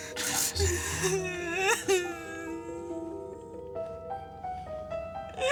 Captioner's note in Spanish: Sollozos